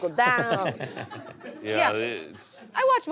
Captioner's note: laughter